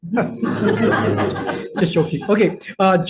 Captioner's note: everyone laughs